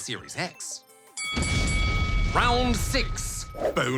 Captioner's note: bell dings